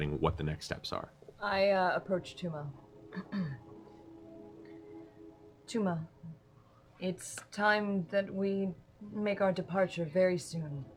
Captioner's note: clears throat